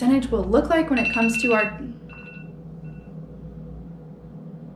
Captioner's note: device ringing